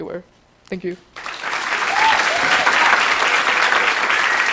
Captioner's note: applause, cheering